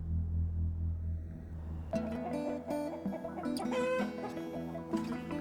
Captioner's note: chickens clucking